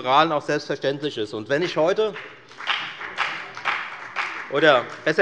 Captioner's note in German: Beifall bei der FDP